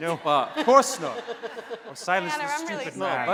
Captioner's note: laughing